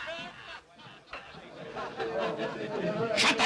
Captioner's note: raucous laughter